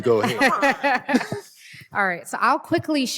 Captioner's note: laughter